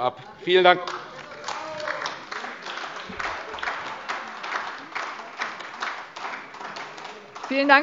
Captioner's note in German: Beifall : Genau!